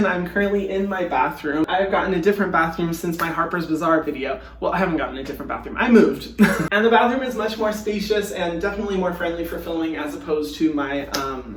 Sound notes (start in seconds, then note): 6.4 laughing